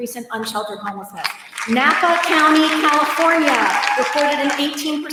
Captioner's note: applause